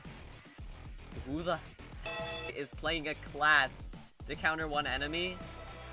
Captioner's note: bellring